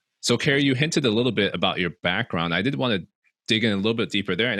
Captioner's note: none